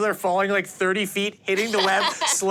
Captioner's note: laughs